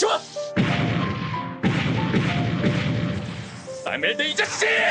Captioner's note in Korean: 포격 소리